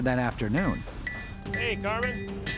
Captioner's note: hammer clanging